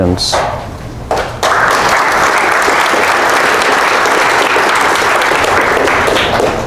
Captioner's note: applause